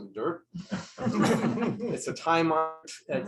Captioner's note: laughter